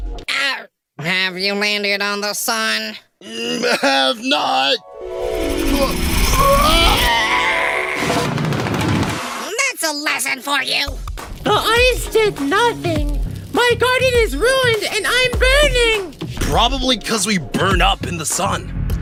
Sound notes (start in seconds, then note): 3.4 giggles; 4.8 harp sounds play